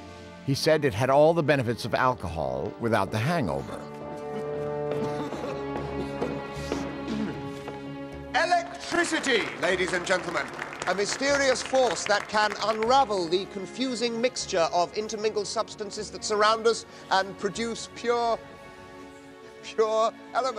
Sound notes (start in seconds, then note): 4.2 <i> laughing</i>; 7.0 <i> clears throat</i>